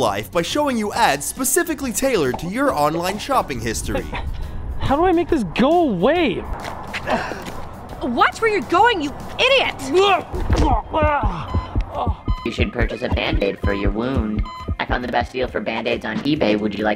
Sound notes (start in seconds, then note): 7.0 gasps; 10.0 groans; 10.8 pulsating, beeping; 12.6 digital voice